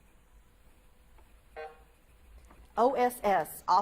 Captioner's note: buzzer buzzes